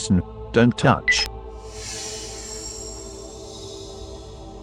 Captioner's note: click; whoosh